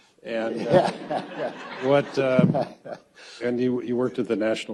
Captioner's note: audience laughs